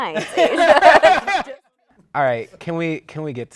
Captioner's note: laughter